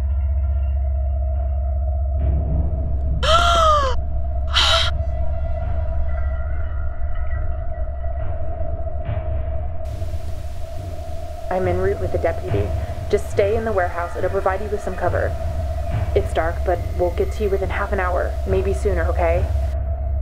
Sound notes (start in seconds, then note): 4.5 Leah gasps